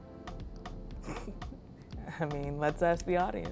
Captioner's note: laughs